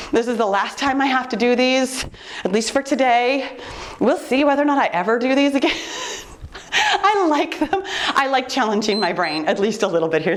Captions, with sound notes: This is the last time I have to do these, at least for today. We'll see whether or not I ever do these again. (laughs) I like them. I like challenging my brain (timer beeps) at least a little bit.